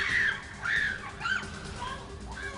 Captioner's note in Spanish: Gritos